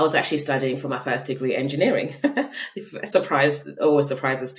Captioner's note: laughing